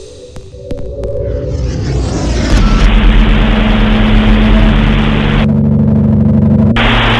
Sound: static - dial up sounds

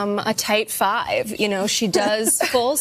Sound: laughter

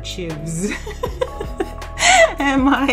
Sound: laughs

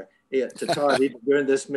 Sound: laughing

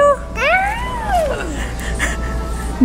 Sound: shouts; laughs

